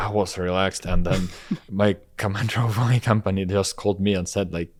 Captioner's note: laughs